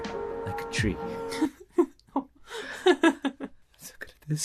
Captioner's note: laughs